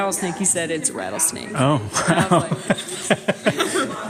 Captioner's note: laughs